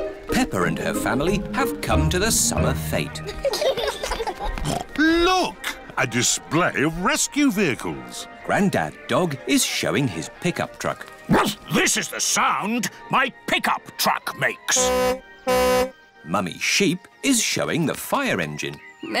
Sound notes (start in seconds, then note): 3.2 laughter; 4.6 snorts; 11.3 barks; 14.7 tooting